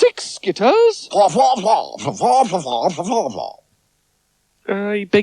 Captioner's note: Spencer Talks In Spider Language